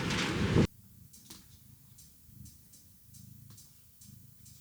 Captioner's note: clicking